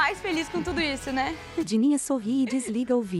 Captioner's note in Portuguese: Risos